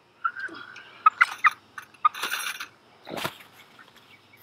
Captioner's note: chicken clucks